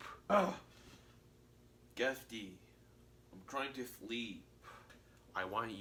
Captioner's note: urgh